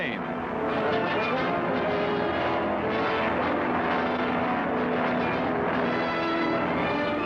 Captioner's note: dramatic music; plane engine roaring